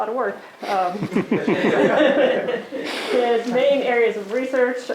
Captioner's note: laughing